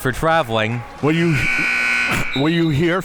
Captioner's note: buzzer sounding